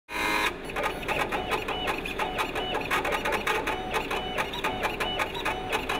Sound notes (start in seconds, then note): 0.1 printer sounds